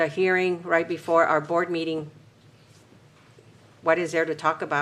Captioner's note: none